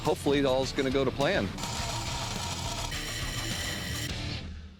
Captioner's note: tools whirring